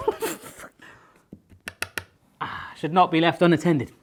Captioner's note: laughing; ring tapping on counter